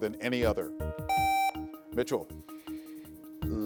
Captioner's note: contestant beeping